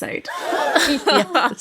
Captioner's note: laughing